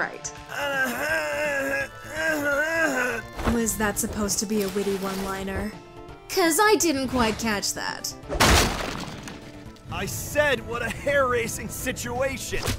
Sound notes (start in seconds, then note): 0.1 struggles to speak; 8.3 crash!!